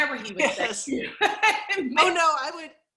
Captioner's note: laughs